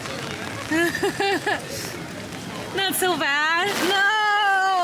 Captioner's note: laughs